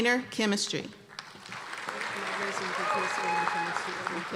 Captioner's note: applause and cheers